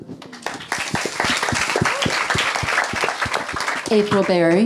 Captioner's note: audience clapping